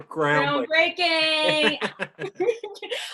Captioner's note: both laugh